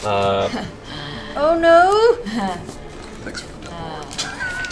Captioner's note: laughs